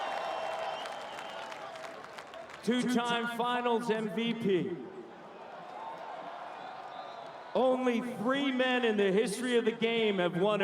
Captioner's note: cheering and Applause